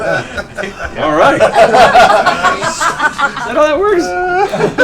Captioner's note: laughter